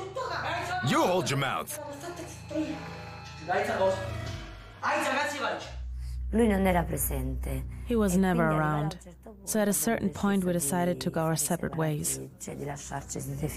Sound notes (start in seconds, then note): 3.4 speaking in Italian